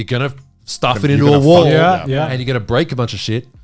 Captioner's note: groans